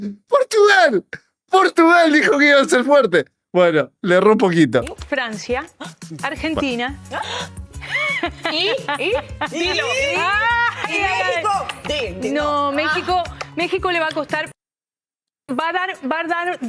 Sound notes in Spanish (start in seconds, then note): 0.0 carraspeo; 7.8 risas